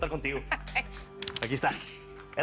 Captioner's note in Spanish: Risas